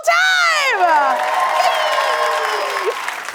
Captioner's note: cheers and applause